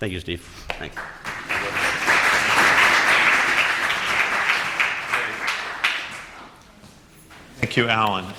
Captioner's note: applause